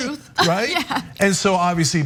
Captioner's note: laugh